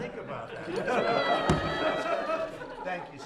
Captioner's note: laughter